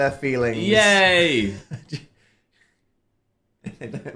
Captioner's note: Dan laughs